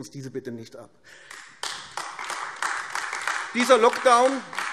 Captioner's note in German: Beifall AfD